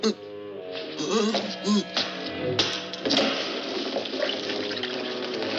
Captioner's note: grunting